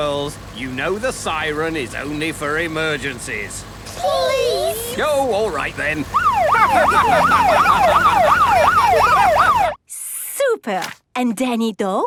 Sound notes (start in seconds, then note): 6.1 siren wailing; 7.7 laughing